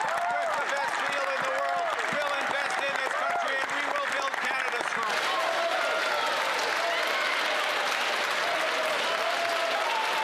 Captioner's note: cheers & Applause